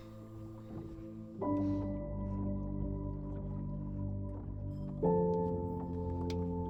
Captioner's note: Jacob sniffles; water splashing; solemn music